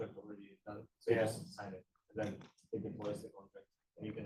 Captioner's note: speaking faintly